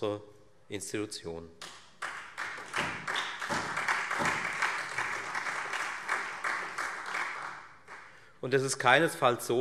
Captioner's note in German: Beifall Freie Demokraten und SPD